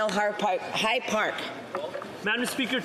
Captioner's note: speaking French